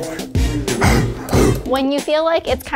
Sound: upbeat music; grunting

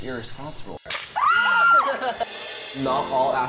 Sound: everyone yelling

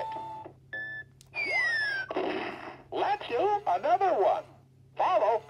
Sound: bomb explodes

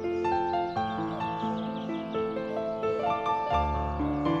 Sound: birds chirping

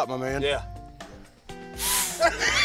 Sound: blows; laughter

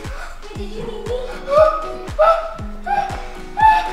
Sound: excited gasping

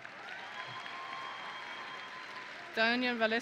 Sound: audience and graduates cheering; audience and graduates applauding

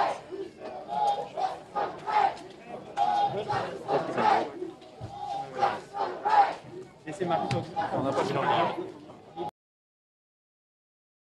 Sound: crowd chanting

